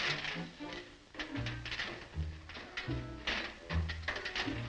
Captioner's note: Volkite struggles